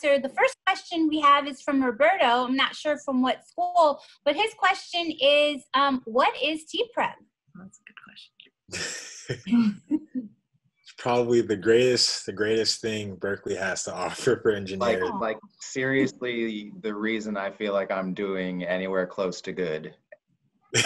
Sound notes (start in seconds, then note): 8.7 laughing